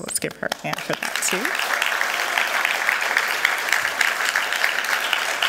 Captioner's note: applause